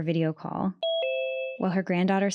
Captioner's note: beeping